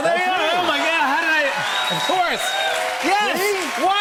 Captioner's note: cheers and applause